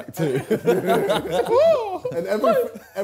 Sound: laughing

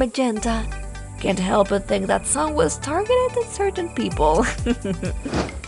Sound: giggles

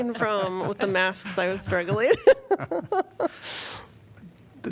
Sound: laughter

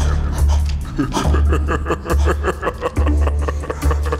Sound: Carlo laughs

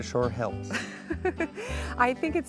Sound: laughing

